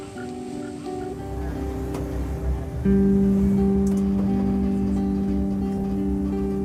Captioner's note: frogs calling; tram driving